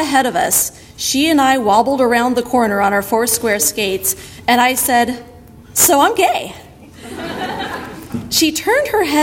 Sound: audience laughter

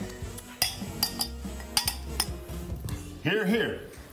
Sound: glasses clinking

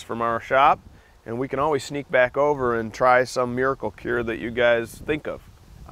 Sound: none

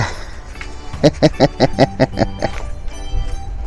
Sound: laughs

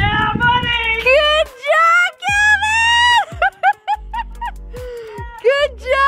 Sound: laughs

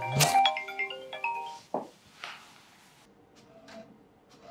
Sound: Sam's Phone ringing

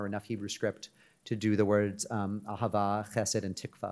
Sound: speaks in Hebrew

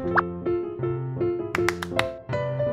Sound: claps

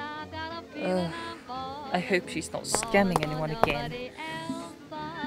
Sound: sigh

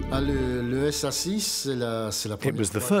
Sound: speaking French

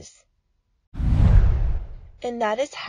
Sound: whooshing

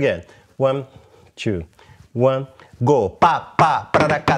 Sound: vocalizes rhythm

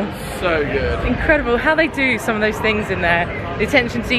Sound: none

